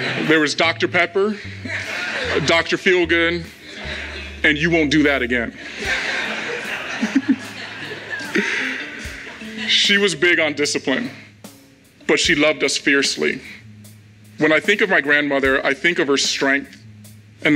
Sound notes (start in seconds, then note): 0.0 crowd laughs; 5.8 crowd laughs; 7.1 Jason laughs